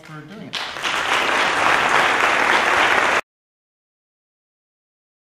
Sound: audience applause

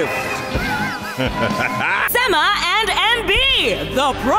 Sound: evil chuckle

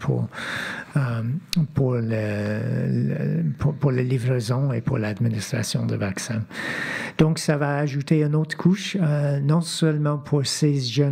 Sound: speaking French

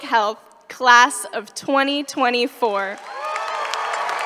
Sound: cheering & applause

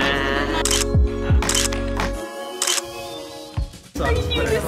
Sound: camera clicking

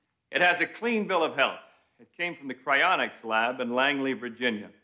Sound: none

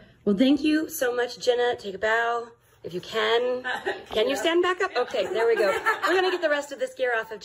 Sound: laughing

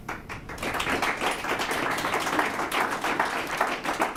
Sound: applause

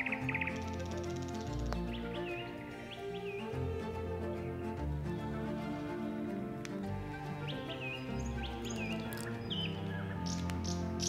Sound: birds chirping quietly

